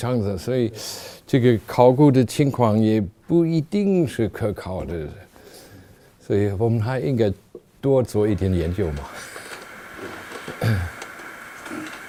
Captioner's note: audience member speaking in Chinese; speaking in Chinese, chuckling